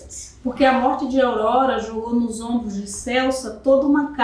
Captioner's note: speaking portuguese